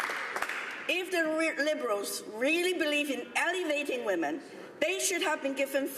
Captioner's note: some Applause